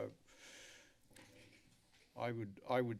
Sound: inhales

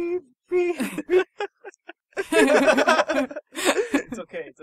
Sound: laughing

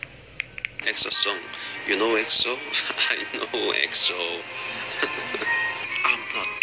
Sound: laughs

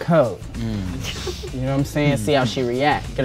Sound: laugh

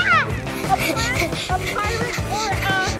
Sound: gasping

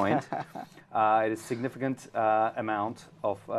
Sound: laugh

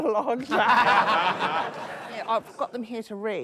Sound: laughter

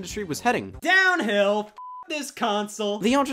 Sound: beep

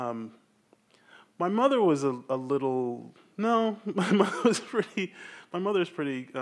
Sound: laughs

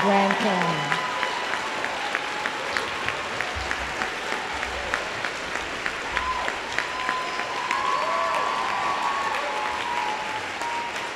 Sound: applause

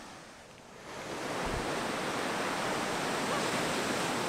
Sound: waves lapping

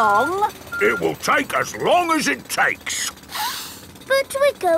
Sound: sniffs

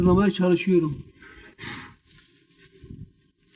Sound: blowing sound; rustling and rattling noises

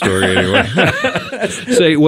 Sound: group laughs

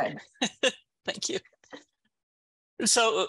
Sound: laugh

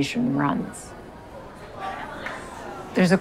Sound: indistinct chatter

